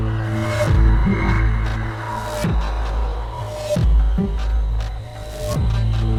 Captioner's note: none